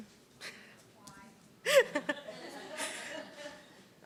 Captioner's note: laughs; laughter